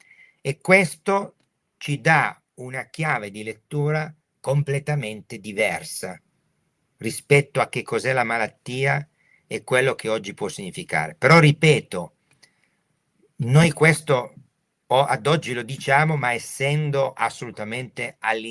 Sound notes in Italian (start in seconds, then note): none